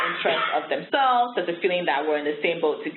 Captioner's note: coughing